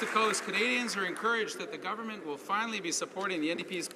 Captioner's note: some Applause